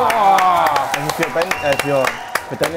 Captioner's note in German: Applaus, Jubel